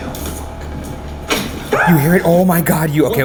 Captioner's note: item clicking; screaming